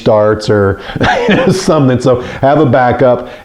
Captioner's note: laughs